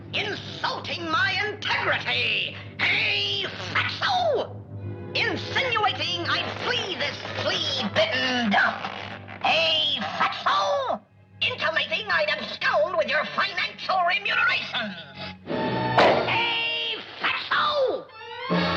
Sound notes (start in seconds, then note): 16.0 head pops